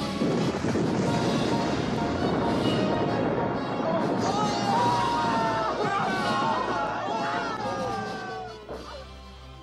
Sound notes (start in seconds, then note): 0.3 cannons blast; 4.4 fighters yell